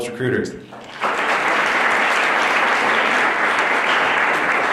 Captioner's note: applause